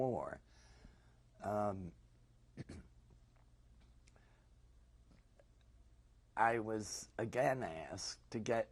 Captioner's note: pauses for 6 seconds